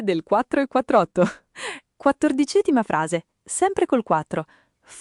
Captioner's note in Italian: Haha